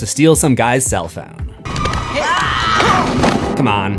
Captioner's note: screams